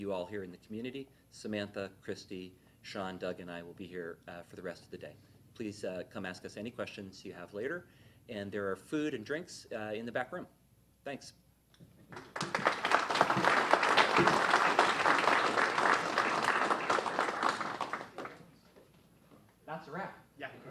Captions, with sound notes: here in the community. Samantha, Christy, Sean, Doug and I will be here for the rest of the day. Please come ask us any questions you have later. There are food and drinks in the back room. Thanks. (applause) That's a wrap.